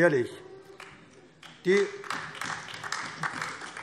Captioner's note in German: Beifall AfD